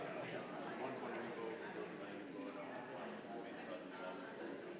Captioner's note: indistinguishable chatter